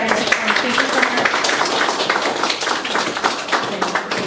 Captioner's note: applause